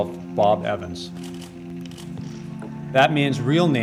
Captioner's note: camera shutter clicking continuously